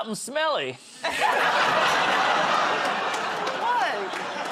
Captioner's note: laughter